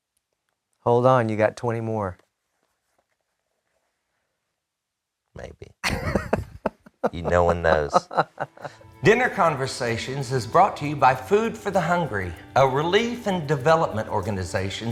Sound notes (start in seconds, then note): 5.8 laughs